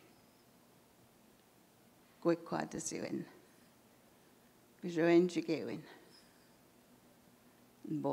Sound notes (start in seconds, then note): 1.7 in Indigenous language